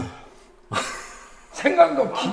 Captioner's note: chuckles